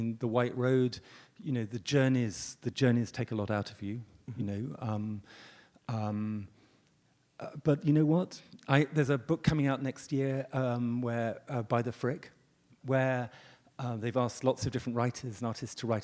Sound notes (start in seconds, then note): none